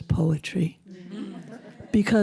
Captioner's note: audience laughing